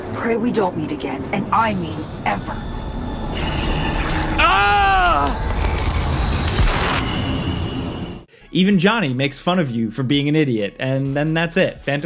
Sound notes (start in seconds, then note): 3.4 eerie electronic music; 4.2 V exclaims